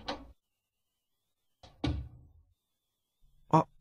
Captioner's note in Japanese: 扉が開く音：ガッチャン; 扉の閉まる音：バタン